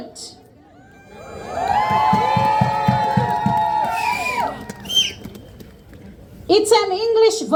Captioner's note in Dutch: Gejuich